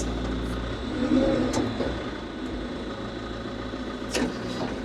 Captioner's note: machinery rumbles